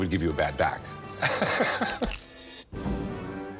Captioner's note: chuckles